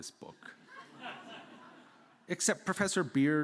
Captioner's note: audience laughing